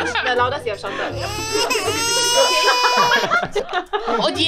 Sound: baby crying

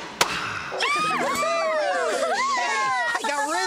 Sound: all Cheering

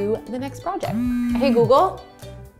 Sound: phone buzzes

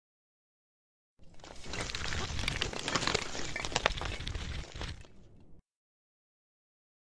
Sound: sound of bones

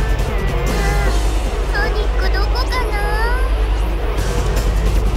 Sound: sigh

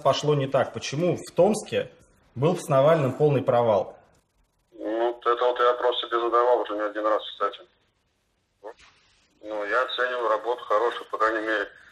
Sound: speaking Russian

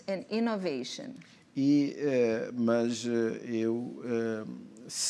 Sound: speaking portuguese

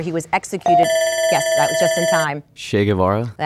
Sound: dinging; buzzing

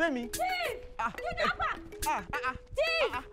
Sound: shouts

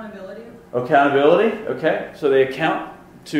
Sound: voiceover

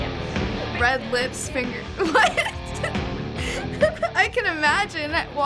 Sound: laughing

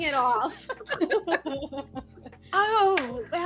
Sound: laughter

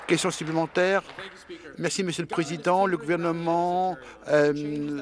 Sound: applause

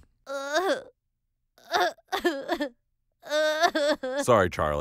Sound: crying

